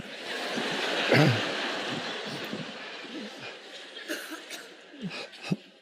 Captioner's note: audience laughing loudly